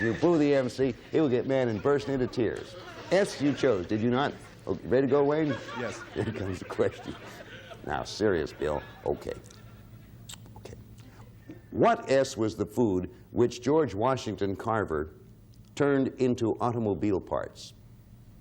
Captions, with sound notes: If you boo the MC, he will get mad and burst into tears. "S" you chose, did you not? -Yes. -Okay, ready to go, Wayne? -Yes. -(chuckles) Here comes the question. Now, "Serious, Bill." Okay -Okay. -What "S" was the food which George Washington Carver turned into automobile parts?